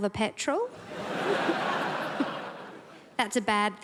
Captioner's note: crowd laughs